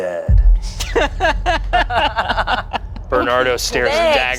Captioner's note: everyone laughs